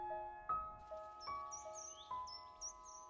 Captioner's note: solemn piano music; birds chirping